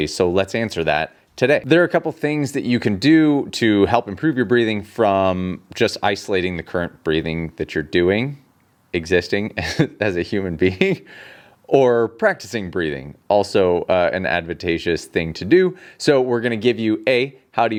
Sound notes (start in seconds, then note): 9.6 chuckles